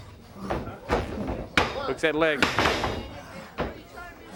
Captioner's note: crowd chatter